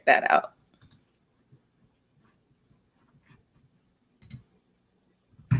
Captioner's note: computer mouse clicking